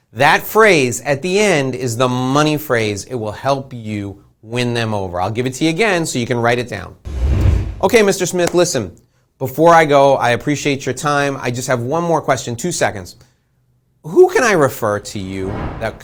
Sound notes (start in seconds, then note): 7.0 air whooshing